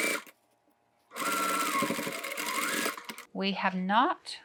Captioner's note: machine whirring